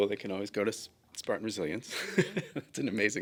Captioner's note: laughs